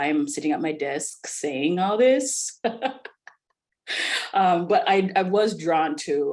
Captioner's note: laughs